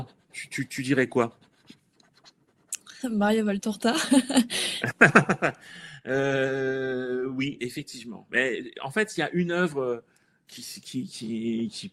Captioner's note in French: rires